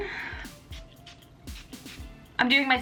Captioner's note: bottle spritzing